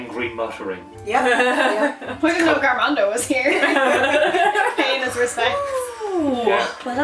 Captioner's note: laughter